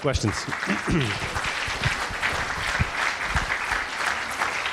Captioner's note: audience applauding